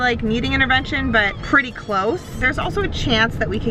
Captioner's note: squealing